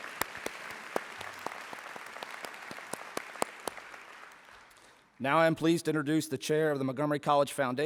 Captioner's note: applause